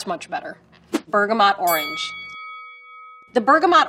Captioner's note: bell dings